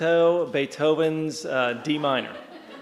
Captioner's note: laughter